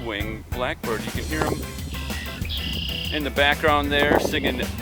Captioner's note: red-winged Blackbird calls